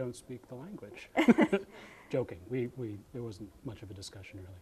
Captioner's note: both laughing